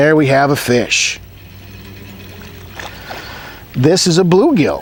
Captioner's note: reel and water sounds